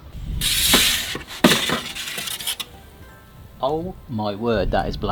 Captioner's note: pizza paddle scraping